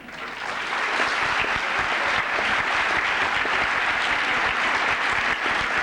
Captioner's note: applause